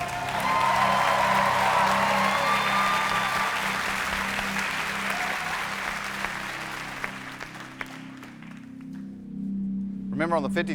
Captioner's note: cheers and applause